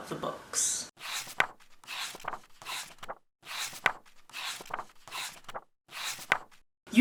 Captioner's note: pages turning